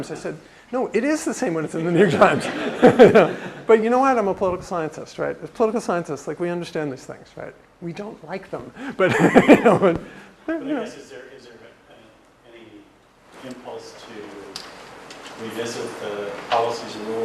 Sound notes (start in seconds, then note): 1.9 laugh; 8.8 laugh